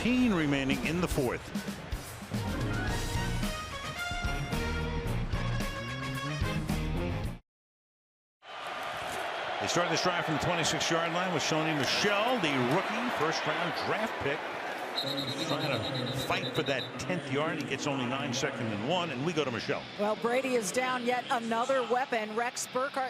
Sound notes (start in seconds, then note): 14.9 whistle